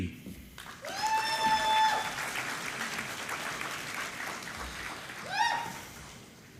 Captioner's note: applause